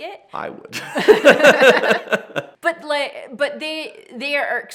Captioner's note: both laughs